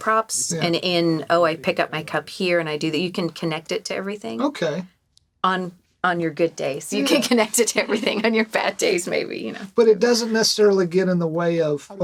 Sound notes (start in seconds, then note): 8.1 chuckling